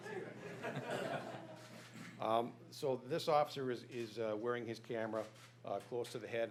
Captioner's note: laughter